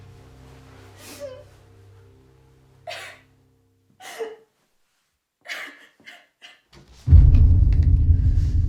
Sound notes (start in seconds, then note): 5.4 crying